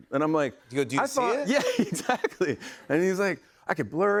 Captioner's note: laughing